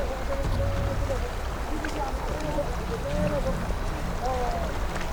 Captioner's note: speaking foreign language